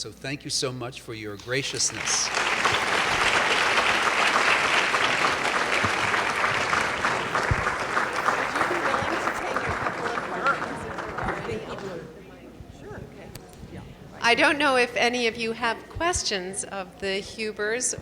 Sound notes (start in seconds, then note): 1.4 audience applauds; 8.6 voiceover; 12.0 voiceover